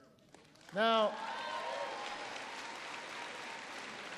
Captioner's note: applause